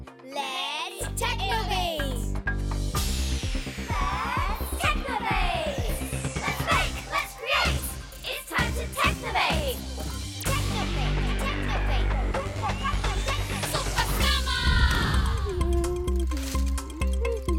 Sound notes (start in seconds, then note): 2.4 music upbeats playing; 15.5 Sema humming